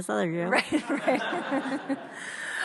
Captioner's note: audience laughs